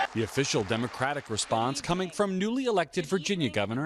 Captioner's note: applause